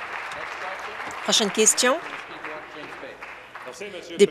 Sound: applause

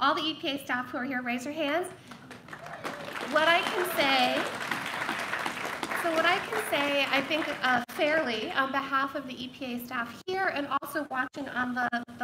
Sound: applause

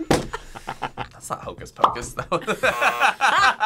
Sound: laughs

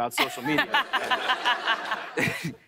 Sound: laughter

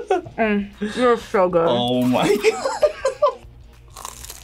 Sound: laughs

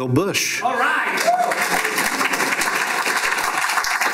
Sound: applause

